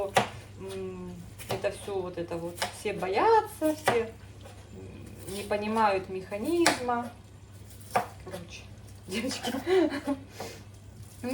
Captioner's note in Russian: фыркает